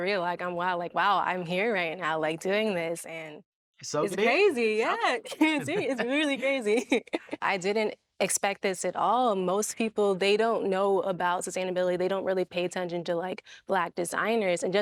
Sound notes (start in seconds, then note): 5.3 La'Ron laughing